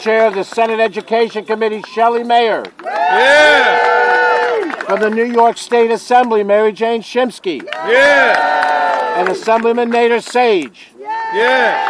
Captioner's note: cheering